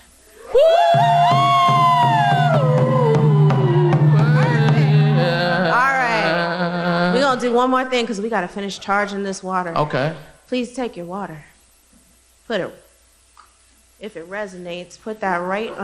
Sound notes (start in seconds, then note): 4.8 cheering